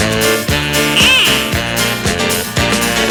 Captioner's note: car honking; upbeat music